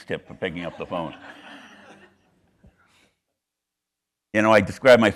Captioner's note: audience laughing